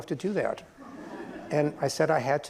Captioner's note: laughter